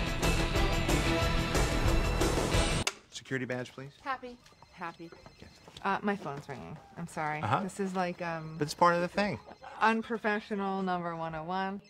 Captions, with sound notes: -Security badge, please. -Happy. -Happy. -Yes? (CELL PHONE RINGING) My phone is ringing. I'm sorry. -This is like... -It's part of the thing. Unprofessional number 101.